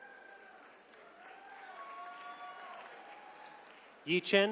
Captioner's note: attendees cheering